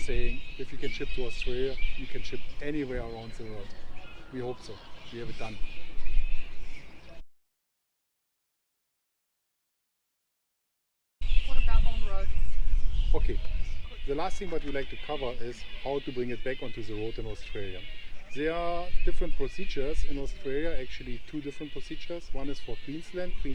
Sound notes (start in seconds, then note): 7.8 birds